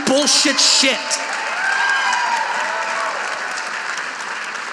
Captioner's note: audience applauding